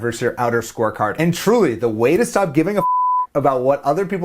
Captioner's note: beep